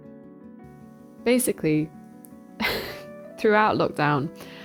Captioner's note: laughs